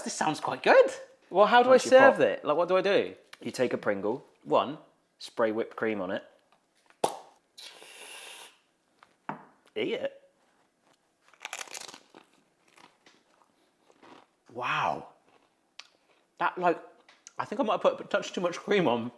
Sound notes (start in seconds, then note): 7.0 lid pops; 7.6 can hisses; 9.3 can thuds; 11.2 chip crunching